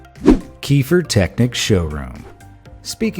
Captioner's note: graphic whooshing